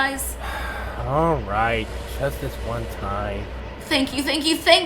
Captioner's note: sighs